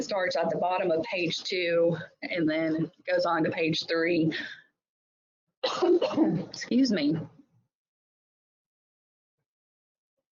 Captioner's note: coughing